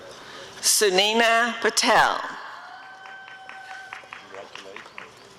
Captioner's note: applause and cheering